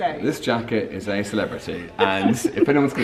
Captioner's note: laughs